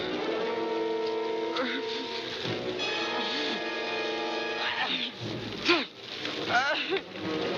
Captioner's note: grunting